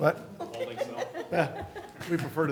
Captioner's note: laughter